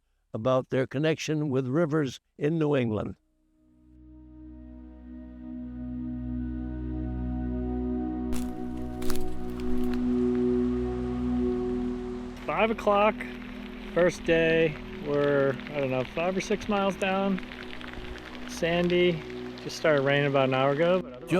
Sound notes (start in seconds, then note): 8.3 sticks crunch; 9.6 raindrops patter; 17.5 raindrops patter